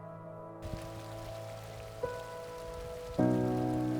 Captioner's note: water flowing